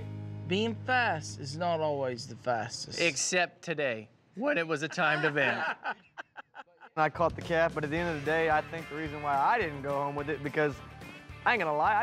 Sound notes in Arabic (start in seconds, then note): 4.8 يضحك